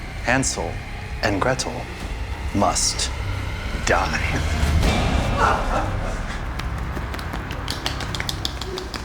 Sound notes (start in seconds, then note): 6.5 soft clapping